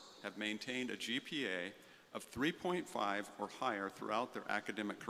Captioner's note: none